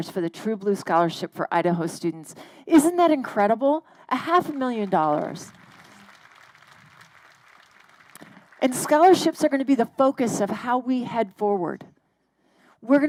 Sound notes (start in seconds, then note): 4.3 crowd applauding